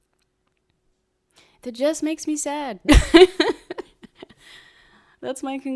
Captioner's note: laughs